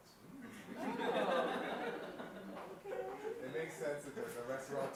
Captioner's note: participants laughing